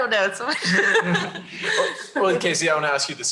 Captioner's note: laughs